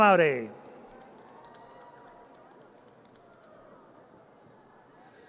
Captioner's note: audience cheers